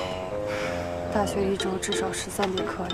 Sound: sighing

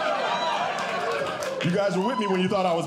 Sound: audience Cheering

